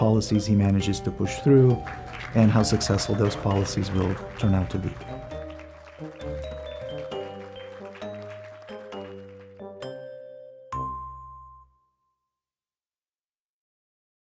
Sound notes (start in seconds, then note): 5.6 audience applauds; 5.6 light music